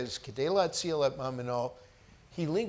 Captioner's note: speaks foreign language